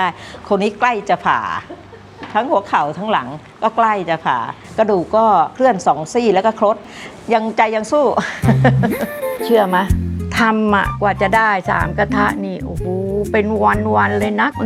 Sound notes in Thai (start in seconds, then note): 8.4 เสียงหัวเราะ